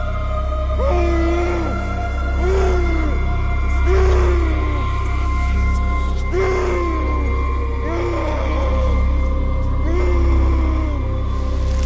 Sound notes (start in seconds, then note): 0.9 suspenseful music; 2.3 man groaning